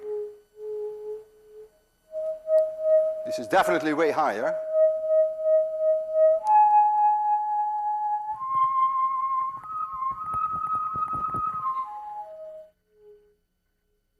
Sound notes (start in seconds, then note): 0.1 tube hums higher tone; 4.0 tube hums even higher; 5.0 tube hums higher, then starts going back down; 7.5 tube returns to first tone